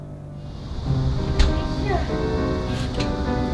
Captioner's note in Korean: 문 여는 소리